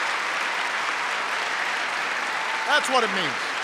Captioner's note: applause